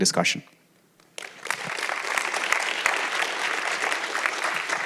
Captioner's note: applause